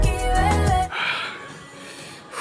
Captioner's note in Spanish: Suspiro